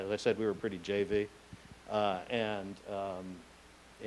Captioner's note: none